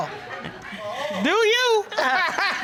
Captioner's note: laughs